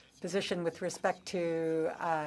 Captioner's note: speaking French